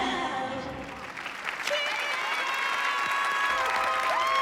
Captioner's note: applause and cheering